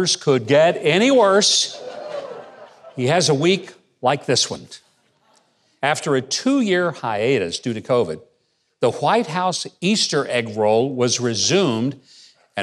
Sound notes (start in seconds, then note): 1.6 audience chuckling